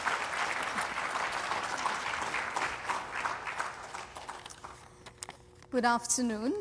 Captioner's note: applause